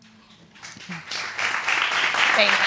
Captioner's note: applause